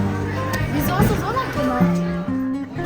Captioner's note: speaking German